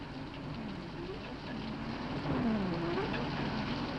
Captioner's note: car engine whirs